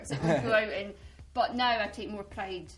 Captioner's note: laughs